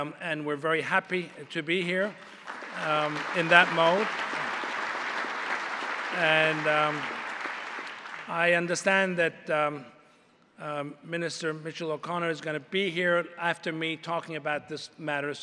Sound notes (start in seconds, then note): 4.0 applause